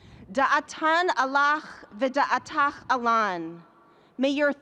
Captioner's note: speaking in a foreign language